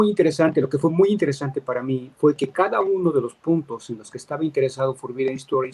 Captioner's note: speaking in Spanish